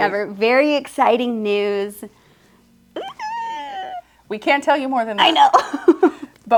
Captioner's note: squeals